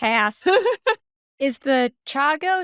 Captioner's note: laughing